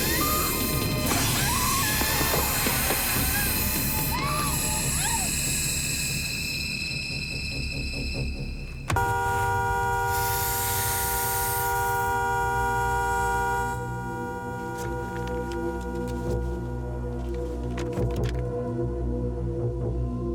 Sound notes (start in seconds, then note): 1.2 screaming; 8.8 horn honks; 16.0 tense music